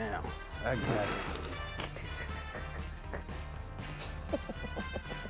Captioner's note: laughs